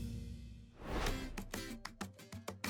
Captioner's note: screen whooshing; uplifting music